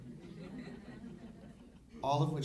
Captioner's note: audience laughing